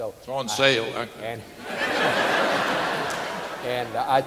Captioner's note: audience laughing